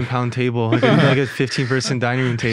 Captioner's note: group laughing